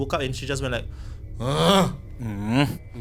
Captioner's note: grunting noise